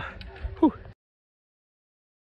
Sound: sigh of relief

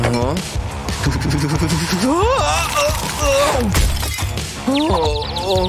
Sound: teeth chattering

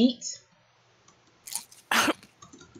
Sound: chew

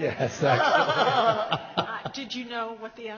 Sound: laughs

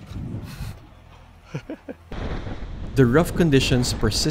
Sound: laughs

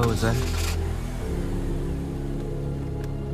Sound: engine turns over

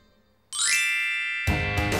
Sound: ignition rings; mellow rock music

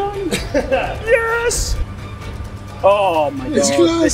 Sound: laughs

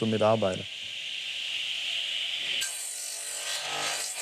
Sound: squeaky whirring

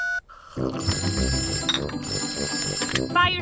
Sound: dialing; phone rings

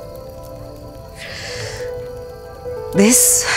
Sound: sighs

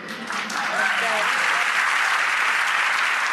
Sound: applauding

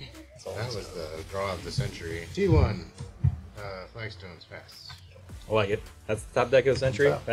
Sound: sarcastically

